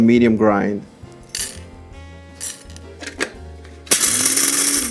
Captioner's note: coffee beans rattling; grinder whirring